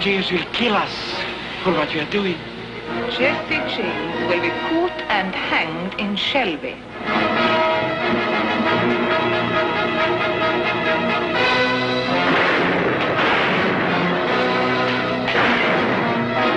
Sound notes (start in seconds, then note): 7.3 dramatic music; 12.0 gun firing